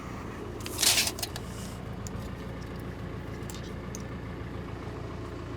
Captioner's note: measuring tape rattles